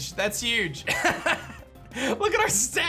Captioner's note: laughs